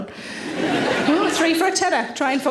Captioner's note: audience laughs